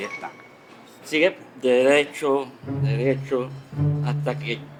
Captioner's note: stuttering